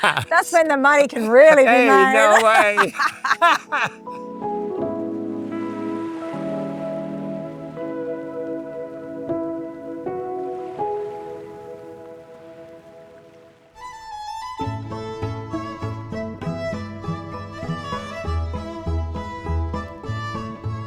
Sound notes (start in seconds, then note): 4.9 laughing; 8.4 upbeat music